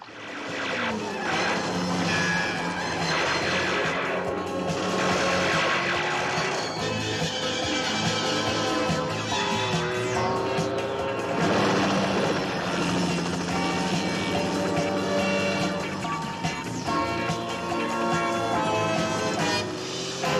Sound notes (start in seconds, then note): 0.2 rapid gunfire, car noise, helicopter noise, ricochets; 7.0 car noise, tense music; 11.3 helicopter noise, car noise, tense music; 19.7 tense music